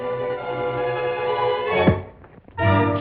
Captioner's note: thud; dramatic music